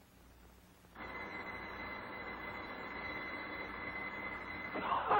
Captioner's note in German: Glocken läuten